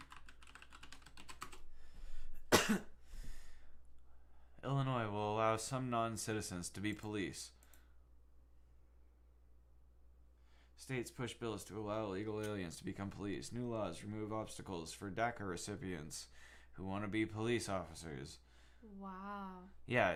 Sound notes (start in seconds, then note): 2.5 coughs